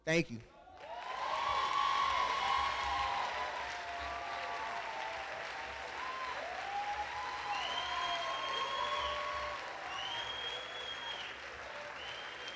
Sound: applause

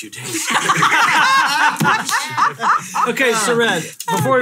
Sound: all laughing

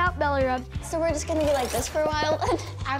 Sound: chuckles

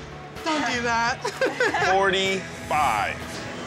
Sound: laughs

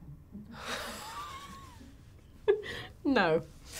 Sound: laughing

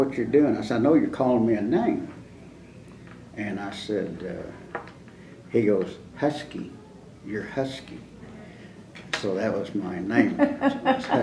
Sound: laughter

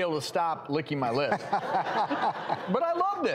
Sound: laughing

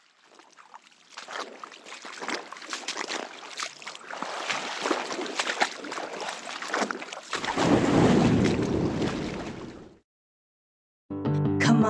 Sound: splashing water; fun guitar music

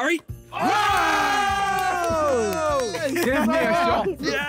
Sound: all cheering and clapping

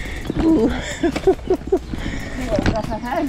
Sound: laughs

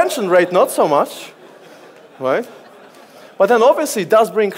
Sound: audience laughs

